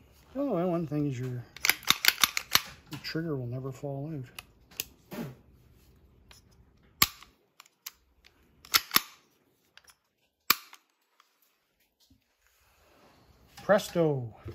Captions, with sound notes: Oh, one thing's your trigger will never fall in it. (gun clanging) Presto